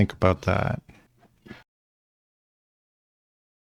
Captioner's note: silence